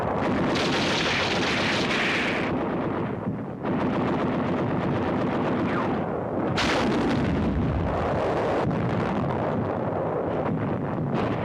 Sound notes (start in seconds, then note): 0.4 guns firing; 6.6 bazooka fires